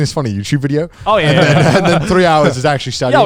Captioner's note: laugh